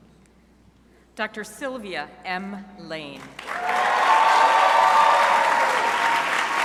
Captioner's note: crowd applauding